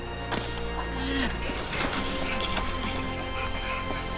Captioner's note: dart gun shot